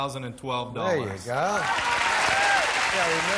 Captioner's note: applause